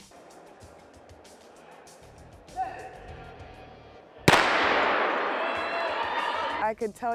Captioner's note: starting gun